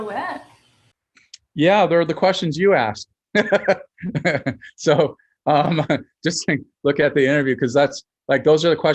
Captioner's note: chuckles